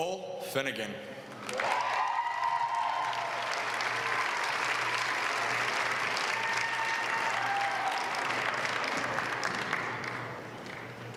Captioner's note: applause